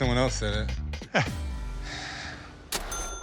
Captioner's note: laughs